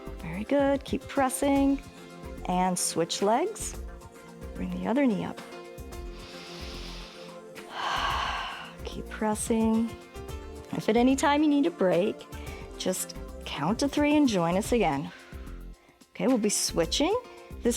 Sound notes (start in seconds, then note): 6.0 inhales and exhales